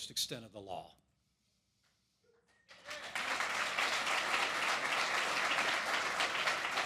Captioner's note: applause